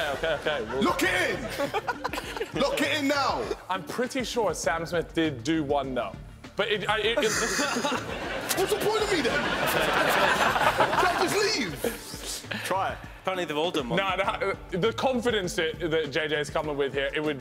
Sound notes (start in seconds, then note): 7.1 laughing